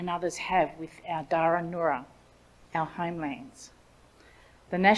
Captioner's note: speaks in Ngunnawal language